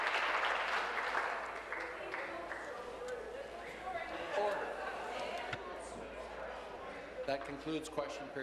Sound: applause

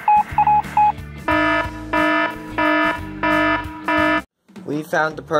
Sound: morse code; alarm

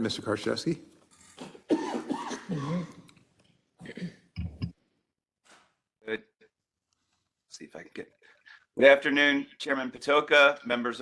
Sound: cough

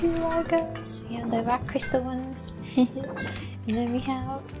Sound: giggle

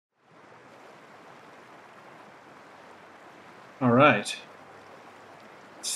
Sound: rushing water

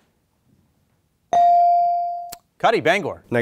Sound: bell ringing

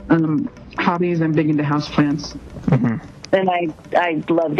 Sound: hums

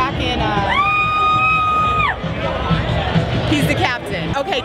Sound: cheering

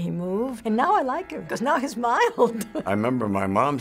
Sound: laughs

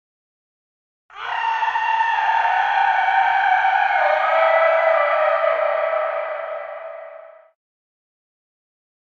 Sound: sound of werewolf

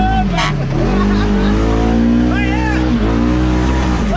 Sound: car horn blowing; everyone laughing

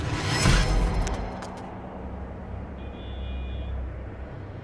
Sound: traffic noise

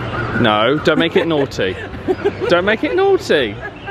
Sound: giggling

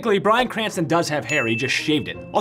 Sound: bell dings

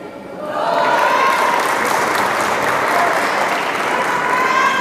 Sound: applause

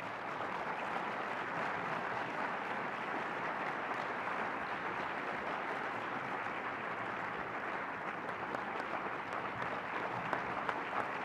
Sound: applause

